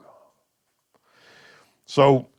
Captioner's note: sighing